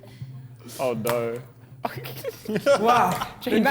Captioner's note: men laughing